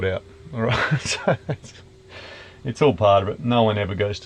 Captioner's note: laughing